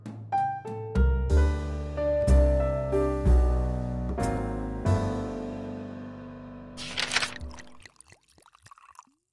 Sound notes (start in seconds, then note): 1.2 jazzy Music; 6.8 liquid pouring